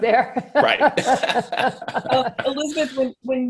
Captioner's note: both laugh